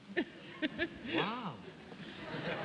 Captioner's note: laughs